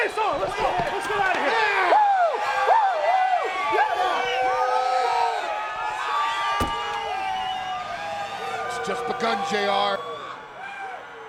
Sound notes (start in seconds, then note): 1.9 audience cheering; 6.5 door banging